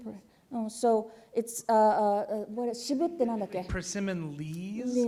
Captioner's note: speaking japanese; speaking japanese